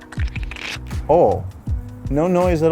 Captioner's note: oil squishing